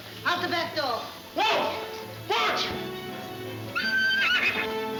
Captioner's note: horse whinnying; exciting orchestra music